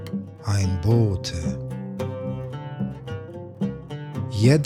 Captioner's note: german